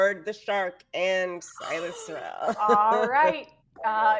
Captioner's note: person chuckling